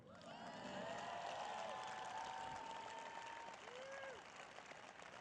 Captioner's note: applause